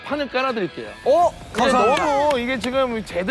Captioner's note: big applause